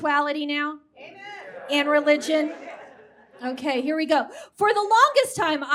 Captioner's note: “Amen” from audience